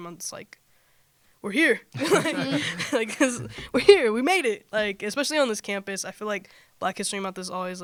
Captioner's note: laughter